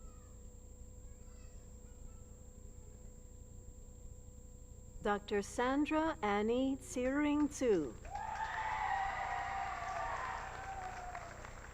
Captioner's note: applause